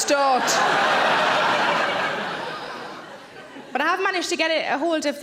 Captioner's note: audience laughs